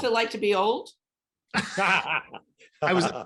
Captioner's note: laughing